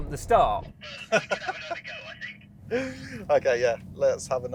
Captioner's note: laughs